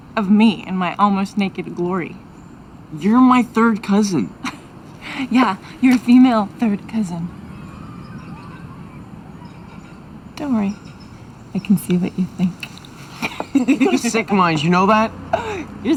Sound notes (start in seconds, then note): 13.0 laughs